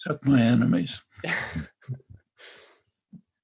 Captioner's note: laughter